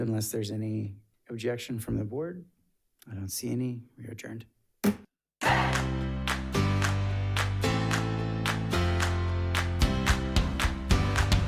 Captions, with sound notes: unless there's any objection from the board. I don't see any, we adjourned. (gavel thumping) (upbeat music)